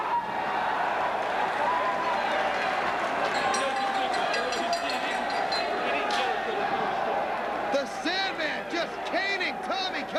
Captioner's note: bell ringing